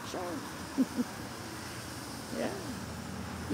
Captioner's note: chuckles